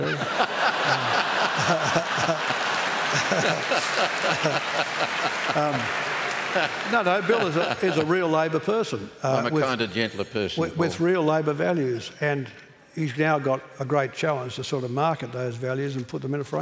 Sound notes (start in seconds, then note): 0.0 laughter